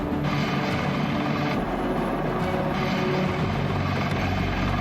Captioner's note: rotors whirring